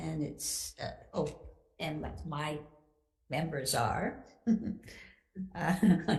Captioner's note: laughs